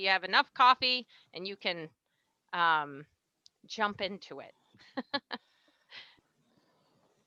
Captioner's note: laughs